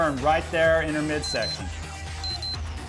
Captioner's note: beep sound